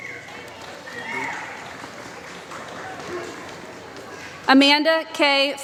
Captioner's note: applause